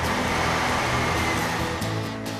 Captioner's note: engine Running